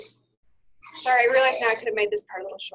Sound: voiceover

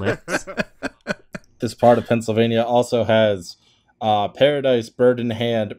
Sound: laughter

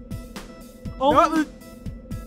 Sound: twilight babbles angrily

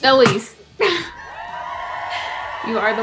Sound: crowd cheering

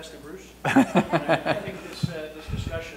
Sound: laughter

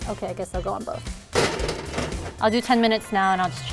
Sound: pans thudding

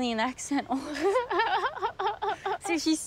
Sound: laughs

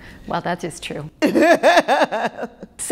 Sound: laughter

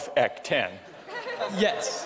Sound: laughter

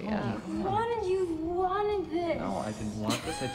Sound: slurring

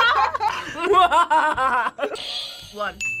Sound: laughs evilly; both laugh; buzzer rings

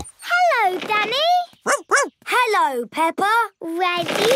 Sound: snorts; barks

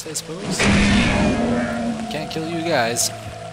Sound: gunshot

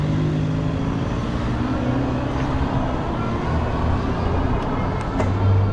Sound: car engine growling; motor whooshing

